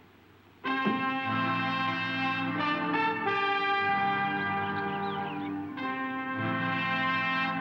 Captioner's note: door unlatching; uptempo dramatic music; birds chirping